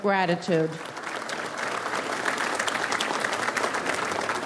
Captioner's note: audience applauds